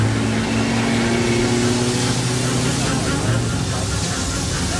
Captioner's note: suspenseful music; boat engine roaring